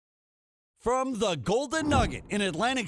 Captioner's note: voiceover